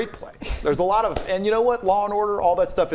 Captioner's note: hands clap